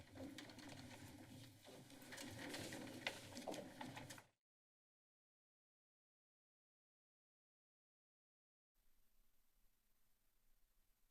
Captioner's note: silence